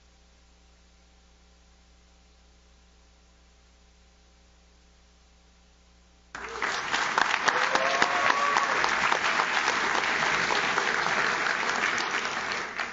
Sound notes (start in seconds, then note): 6.3 audience cheers; 6.3 audience claps